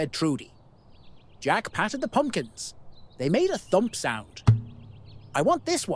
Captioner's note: thump